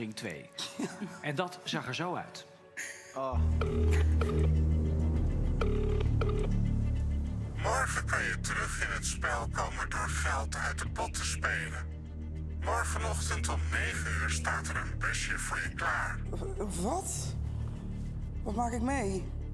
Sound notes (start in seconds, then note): 7.3 distorted voice